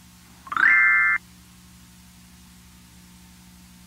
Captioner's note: game chimes